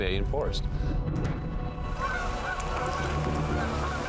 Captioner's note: birds calling